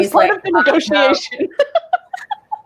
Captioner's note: laughs